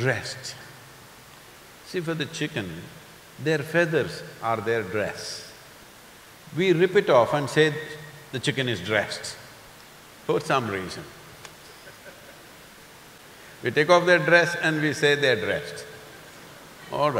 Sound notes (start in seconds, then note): 11.7 few laugh